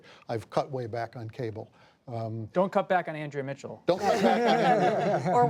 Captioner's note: laughter